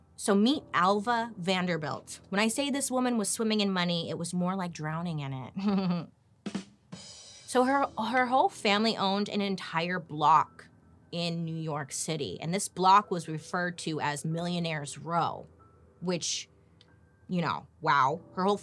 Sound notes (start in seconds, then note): 5.6 laughing; 6.4 drum music